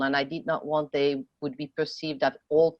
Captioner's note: speaking French